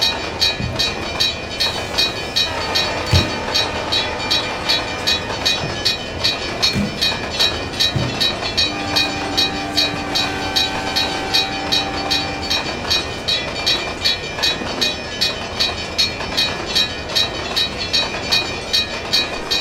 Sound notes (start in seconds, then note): 8.6 CNW Cab Car horn, railroad crossing bell